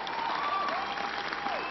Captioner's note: applause